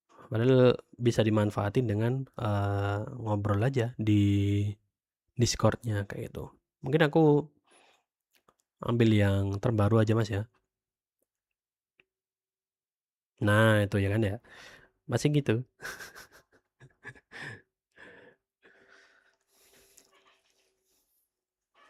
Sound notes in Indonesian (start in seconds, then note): 15.8 tertawa; 18.6 terkesiap